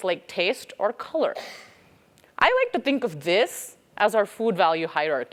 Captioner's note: cough